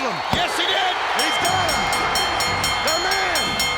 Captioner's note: bell dings